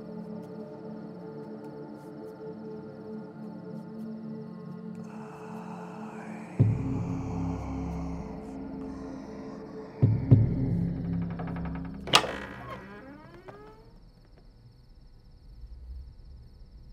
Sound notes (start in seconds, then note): 5.0 demonic whisper